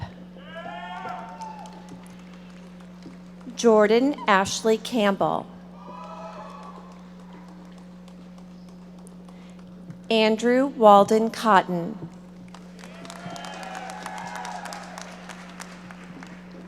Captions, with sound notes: (audience members shouting) Jordin Ashlei Campbell. (audience applauding) Andrew Waldon Cotton. (audience applauding)